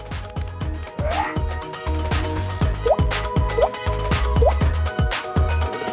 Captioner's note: upbeat music; buttons clacking; camera shutter clicks; speech bubbles blooping